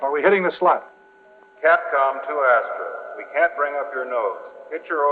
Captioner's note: man on PA